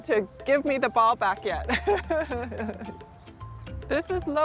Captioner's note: laughing